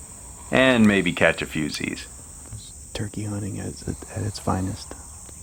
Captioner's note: whispering